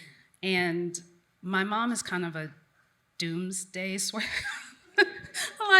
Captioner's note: chuckles